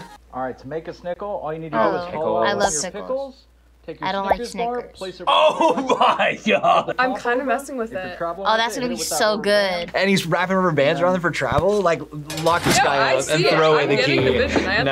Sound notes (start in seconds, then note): 5.2 laughs